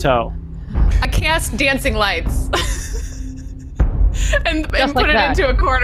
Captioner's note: laughing